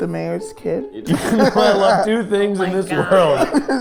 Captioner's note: group laughing